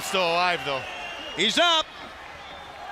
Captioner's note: crowd cheering